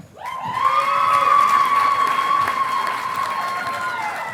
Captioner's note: audience applauding